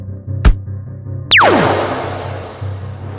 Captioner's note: zap